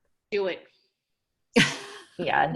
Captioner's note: laughing